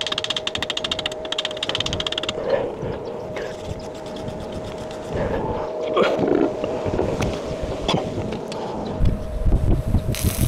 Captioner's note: wind blowing